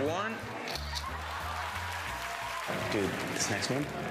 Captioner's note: camera shutter clicks; cheers and applause